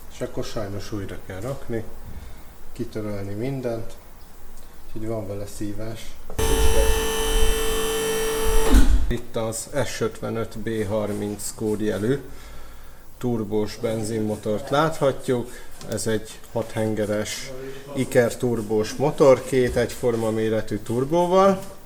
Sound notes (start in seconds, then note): 6.4 noise of the lift